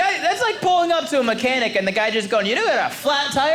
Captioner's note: none